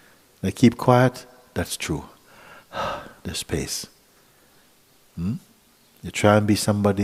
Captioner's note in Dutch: ademt uit